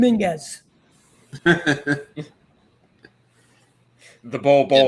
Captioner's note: laughs